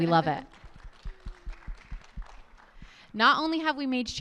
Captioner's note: audience applauds